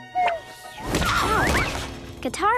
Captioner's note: groaning